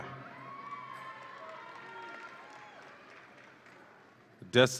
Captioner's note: audience applauds and cheers